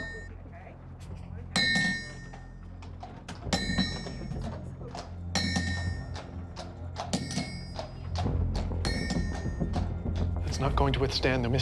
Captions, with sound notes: [hooves clomping] It's not going to withstand the Mississippi current.